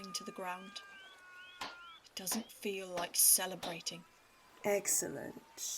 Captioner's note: walburga claps